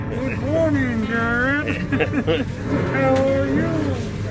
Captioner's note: both chuckle